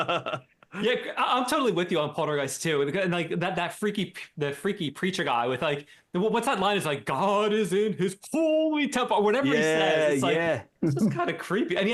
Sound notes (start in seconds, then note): 0.0 laughing